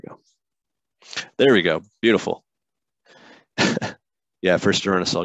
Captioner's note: chuckles